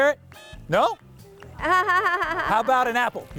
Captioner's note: laughs